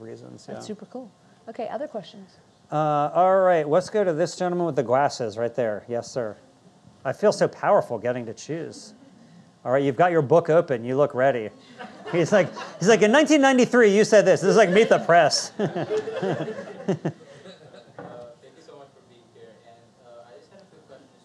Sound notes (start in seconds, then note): 14.2 audience laughing